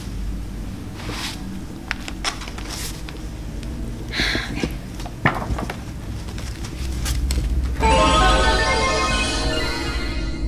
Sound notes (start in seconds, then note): 3.9 sighs; 7.8 magical sounds